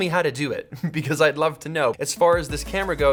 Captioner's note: short laugh